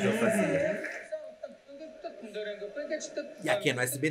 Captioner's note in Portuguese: Jô cantarola